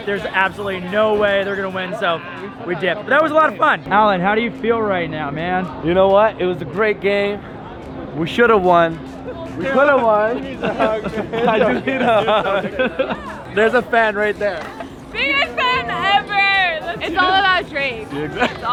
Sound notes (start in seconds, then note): 12.0 laughs